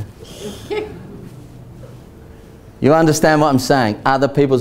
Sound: audience laughs

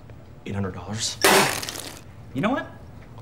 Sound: coffee sputters

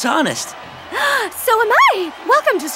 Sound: gasps

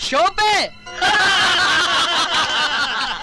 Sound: laughing

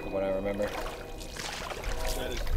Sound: water splashing

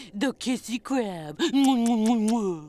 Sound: smooching

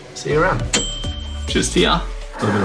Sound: bell dings

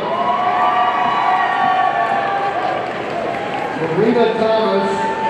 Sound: audience cheering

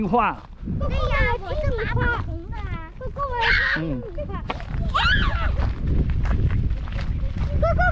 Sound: kids talking to each others

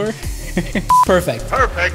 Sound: laughing

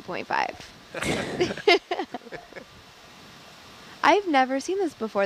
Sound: both laughing

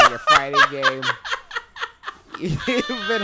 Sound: laughing

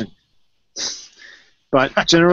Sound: laughs

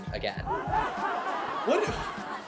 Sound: audience laughing

